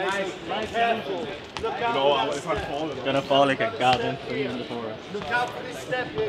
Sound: team murmuring

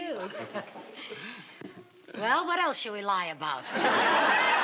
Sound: chuckles

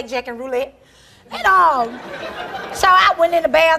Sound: audience laughing

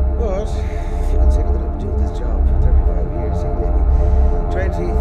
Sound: rumbling intensifies; voice fades

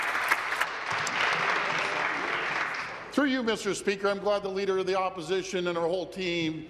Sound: applause

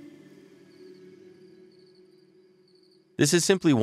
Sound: ambient music; insects chirping

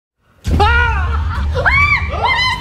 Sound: screaming

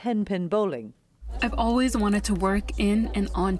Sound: through translator

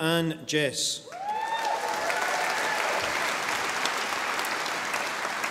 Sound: audience applauding

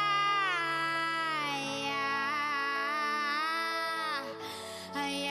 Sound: melodic yelling

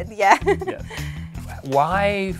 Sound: chuckles

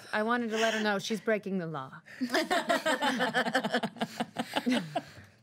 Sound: girls laughing

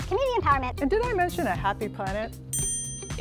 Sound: normal voice; bell dings

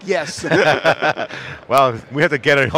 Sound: laughing

